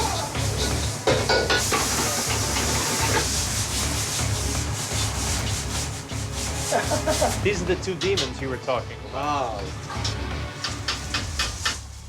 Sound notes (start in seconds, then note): 6.7 laughs